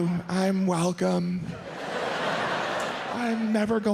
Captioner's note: audience laughs